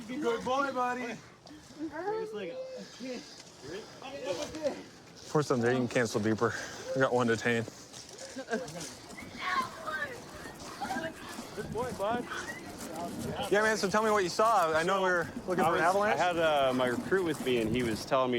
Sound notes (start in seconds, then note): 9.4 yelling